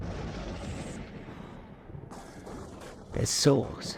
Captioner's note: thunder rumbling